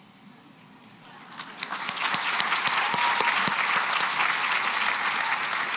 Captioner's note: applause